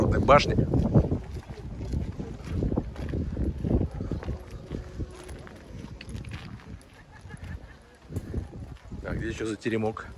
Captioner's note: sound of footsteps